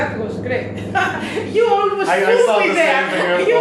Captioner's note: laughs